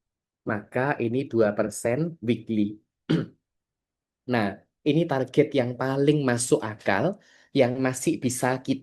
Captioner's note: berdehem